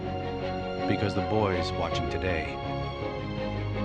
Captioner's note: voice-over